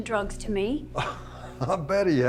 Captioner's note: scoffs